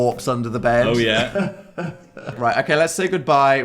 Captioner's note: suspicious chuckle